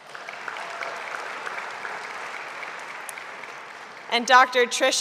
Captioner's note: audience applauding